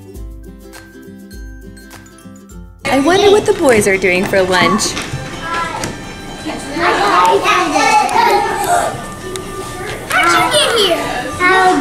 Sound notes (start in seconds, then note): 7.2 kids chattering; 9.5 gasping